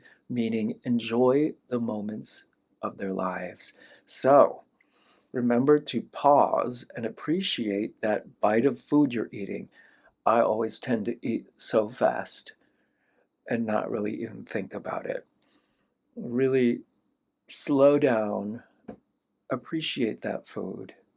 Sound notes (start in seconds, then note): none